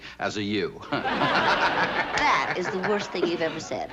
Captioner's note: chuckling